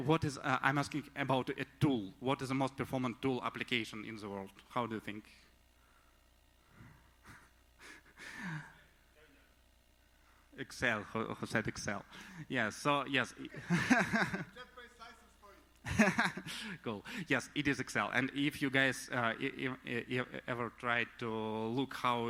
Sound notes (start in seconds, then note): 7.2 laughs; 13.4 laughs; 15.8 laughs